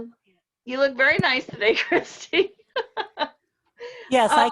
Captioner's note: laughs